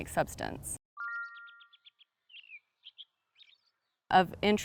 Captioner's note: birds chirping